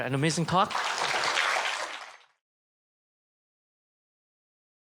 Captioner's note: applause